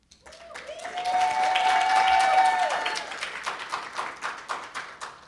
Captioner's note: audience cheering and applauding